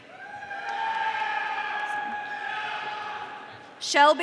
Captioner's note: audience cheering